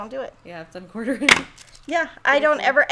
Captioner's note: chuckles; pin box clatters